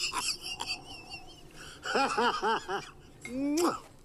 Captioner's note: laughing